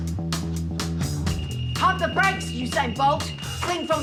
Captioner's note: detector beeps